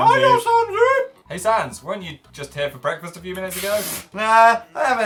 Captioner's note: snorts